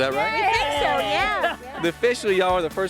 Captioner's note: cheering